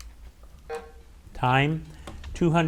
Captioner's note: bell buzzes